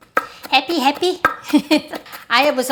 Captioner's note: laughs